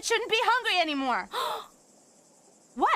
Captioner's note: Gwen Gasp